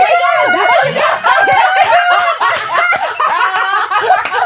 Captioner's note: all laughing